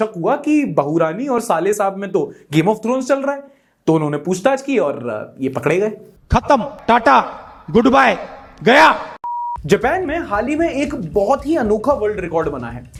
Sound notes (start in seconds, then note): 9.2 beep